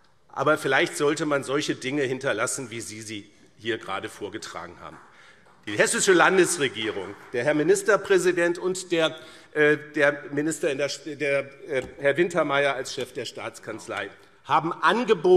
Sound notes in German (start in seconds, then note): 4.8 Vereinzelter Beifall CDU